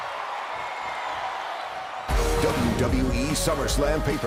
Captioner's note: crowd cheering